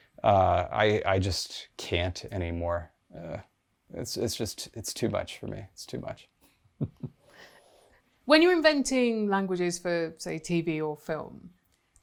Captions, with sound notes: Uh, I just can't anymore. It's just it's too much for me. It's too much. [chuckling] When you're inventing languages for, say, TV or film.